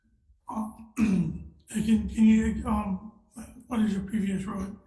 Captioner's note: coughing